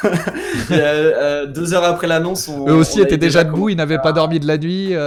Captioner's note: laughs